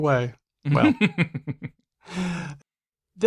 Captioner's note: laughs